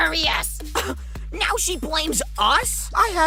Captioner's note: scoffs